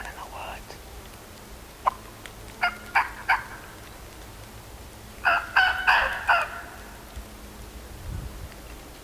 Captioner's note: calling